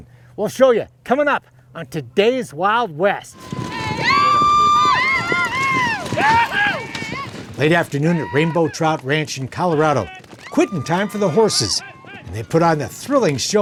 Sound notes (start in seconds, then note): 3.3 people screaming; 3.6 hooves thudding